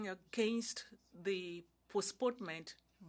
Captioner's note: speaking French